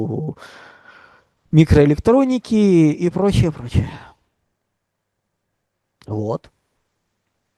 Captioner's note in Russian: тяжело вздыхает